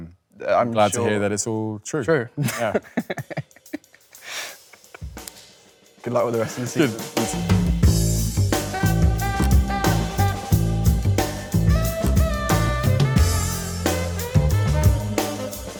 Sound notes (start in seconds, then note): 2.4 Leo chuckles; 7.7 lively jazz music